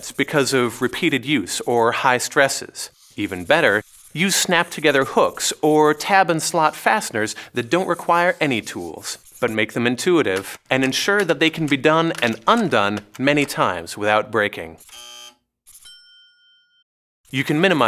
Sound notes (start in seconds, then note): 14.8 buzzer; 15.7 dings